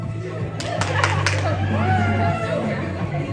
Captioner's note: cheering